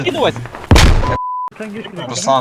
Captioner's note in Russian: Взрыв